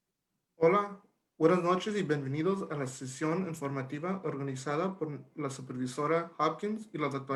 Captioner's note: Spanish speaking